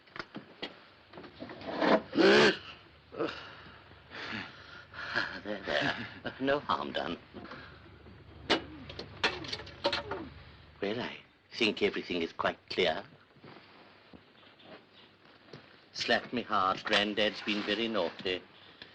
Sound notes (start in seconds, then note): 2.0 strange noise from doll; 4.9 laughs nervously